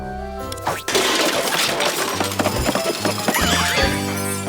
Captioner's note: items clattering